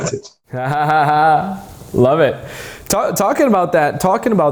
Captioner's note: man laughing